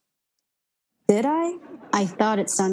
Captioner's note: audience laughing